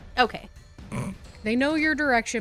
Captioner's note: snort